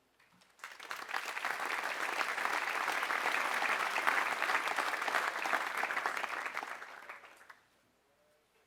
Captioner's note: applause